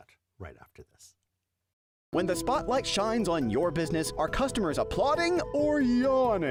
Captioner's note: voiceover